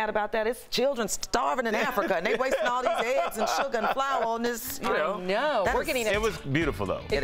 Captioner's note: laughter